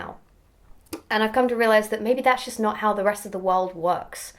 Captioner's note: swallow